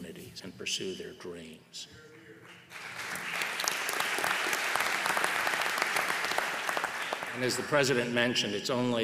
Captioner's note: applause